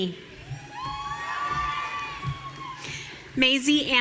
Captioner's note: audience cheering